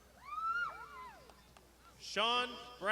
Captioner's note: crowd shouting